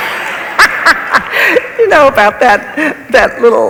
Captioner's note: laughs; audience laughs